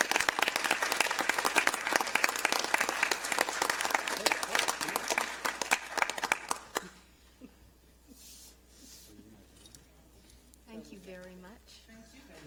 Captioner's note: applause